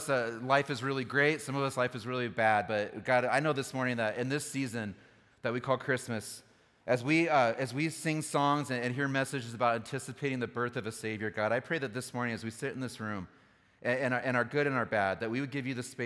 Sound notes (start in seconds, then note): none